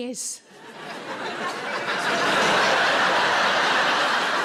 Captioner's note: audience laughs